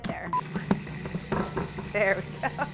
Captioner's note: food processor buzzes; laughs